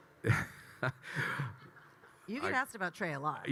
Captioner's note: Kyle laughing